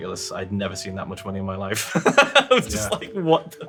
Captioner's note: laughs